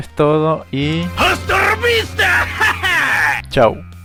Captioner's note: in Spanish